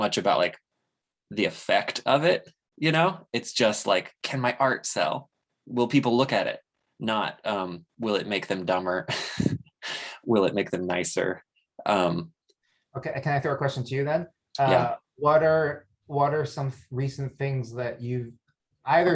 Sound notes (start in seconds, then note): 9.0 chuckles